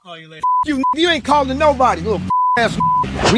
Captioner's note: beep